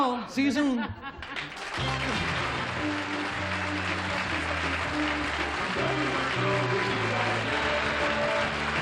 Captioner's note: applause